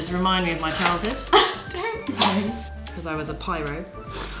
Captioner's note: laughs